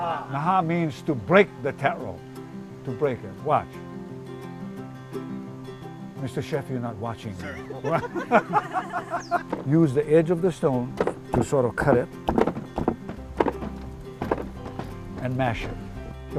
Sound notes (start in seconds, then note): 7.5 laughter